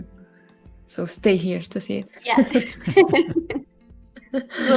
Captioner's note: laughs